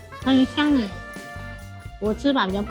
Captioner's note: Taiwanese